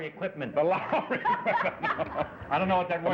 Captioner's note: laughing